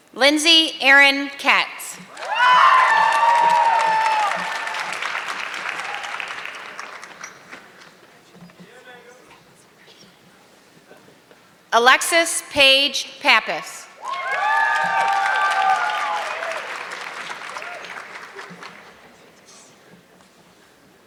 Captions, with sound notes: Lindsay Aaron Kate. (audience clapping) Alexis Paige Papis. (audience clapping)